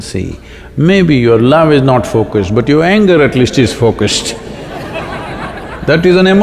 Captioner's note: laughter